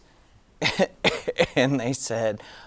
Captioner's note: giggling